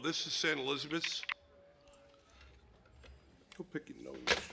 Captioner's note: phone receiver clicking